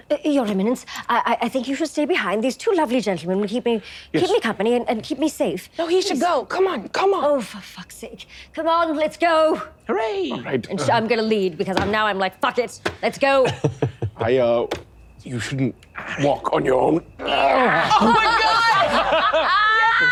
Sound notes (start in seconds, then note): 13.4 chuckling; 17.2 all laughing